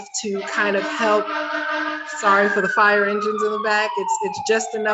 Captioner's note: fire engine honking and sirens